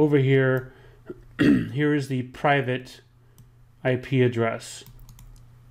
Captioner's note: clears throat